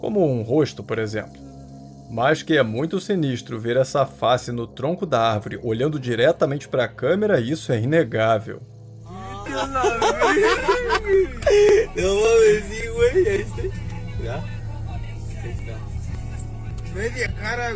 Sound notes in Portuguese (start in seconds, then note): 13.9 risadas